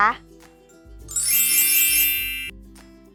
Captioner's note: wink wink noise